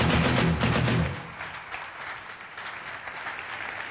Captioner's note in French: Applaudissements